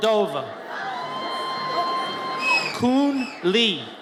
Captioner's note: audience cheers